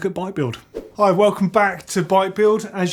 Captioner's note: whoosh